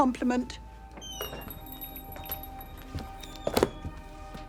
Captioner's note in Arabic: صرير الباب مفتوحا، ويغلق